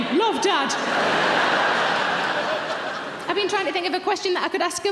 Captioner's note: audience laughs